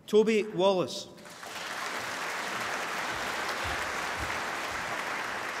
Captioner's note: applause